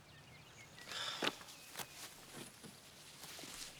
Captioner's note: sighs